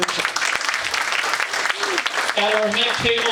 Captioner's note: audience applauds